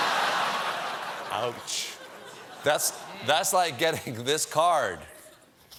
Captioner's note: laughter